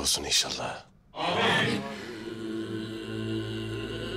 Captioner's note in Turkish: Hep bir ağızdan